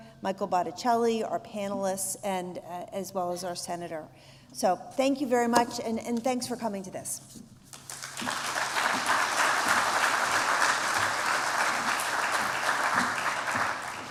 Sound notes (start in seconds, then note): 7.7 applause